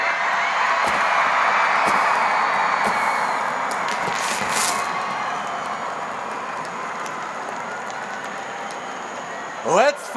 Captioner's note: crowd screaming and cheering